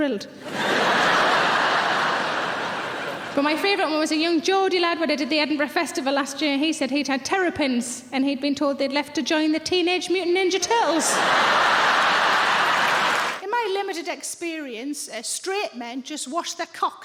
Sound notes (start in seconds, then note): 0.4 audience laughing; 10.8 audience laughing